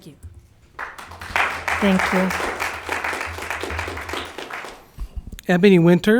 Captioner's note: audience clapping